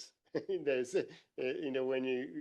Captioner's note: laughs